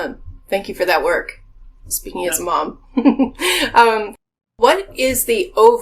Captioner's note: laughing